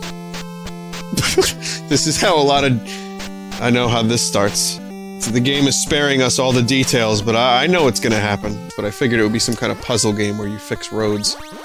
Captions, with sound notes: [laughs] This is how a lot of... I know how this starts. So the game is sparing us all the details, but *I* know what's gonna happen. But I figured it would be some kind of puzzle game, where you fix roads.